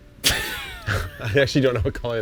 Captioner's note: laughing